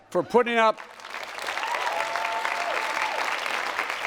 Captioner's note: applause